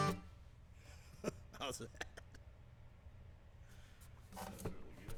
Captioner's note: laughs